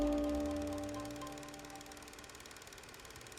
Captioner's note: film projector whirring